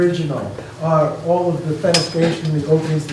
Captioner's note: metal clanging drowns out speaker